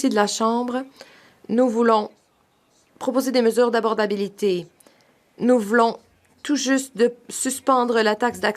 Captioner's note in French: voix de l'interprète